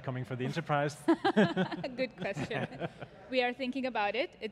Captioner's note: chuckles